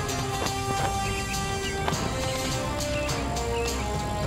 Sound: banner billowing

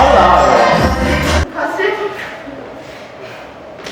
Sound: laughs

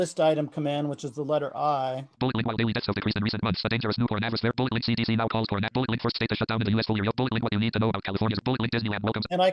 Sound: screen reader reads fast

